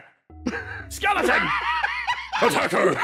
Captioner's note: laugh